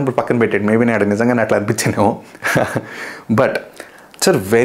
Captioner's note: laughs